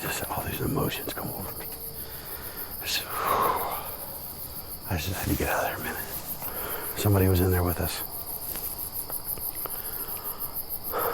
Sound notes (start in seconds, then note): 1.9 breathing